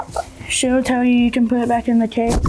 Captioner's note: wings flapping